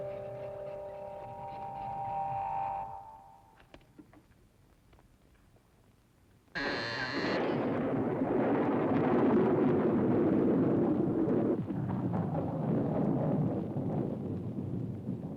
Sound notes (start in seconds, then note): 6.6 coffin lid creaking; 7.3 thunder rumbling